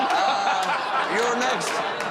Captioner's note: laughter